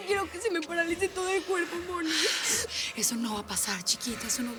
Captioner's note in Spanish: sollozos